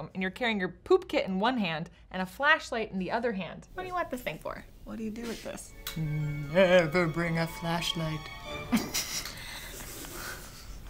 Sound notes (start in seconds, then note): 5.7 ominous music; 8.6 chuckling